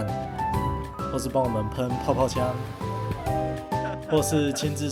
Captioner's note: laughs